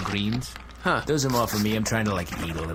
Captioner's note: sound of spray bottle